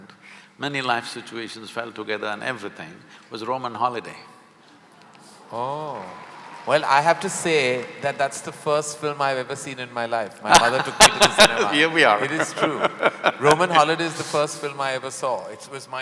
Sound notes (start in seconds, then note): 6.0 applause; 10.5 Sadhguru laughs